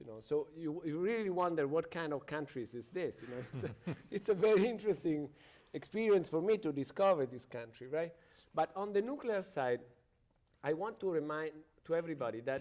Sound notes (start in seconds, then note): 3.2 chuckles; 3.2 panelist chuckles